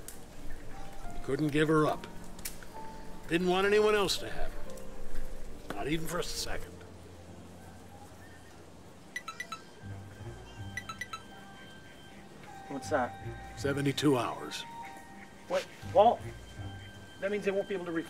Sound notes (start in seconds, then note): 9.1 beeping